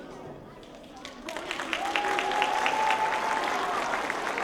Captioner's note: applause